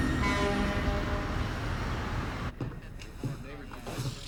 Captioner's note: horn honking